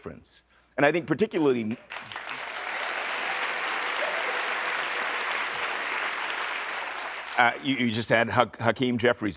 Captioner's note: applause